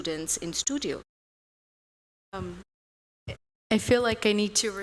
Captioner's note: audio out